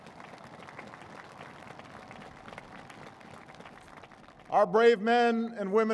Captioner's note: applause